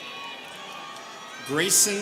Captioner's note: students cheering